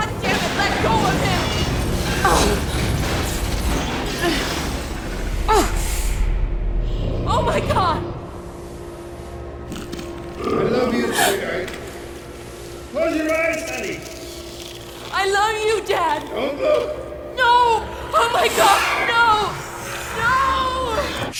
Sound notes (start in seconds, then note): 2.5 explosion rumbling; 2.5 glass shattering